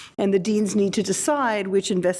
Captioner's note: none